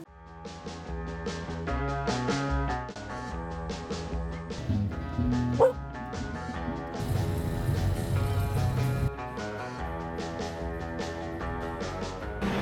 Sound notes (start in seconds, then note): 0.2 rock and roll music; 6.3 dog bark